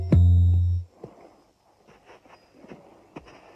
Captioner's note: chiming